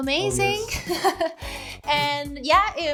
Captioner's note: laughing